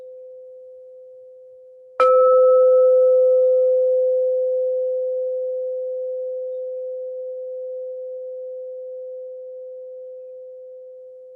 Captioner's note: a bell rings and fades away three times